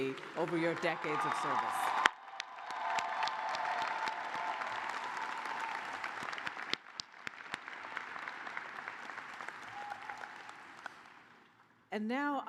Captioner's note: cheers and applause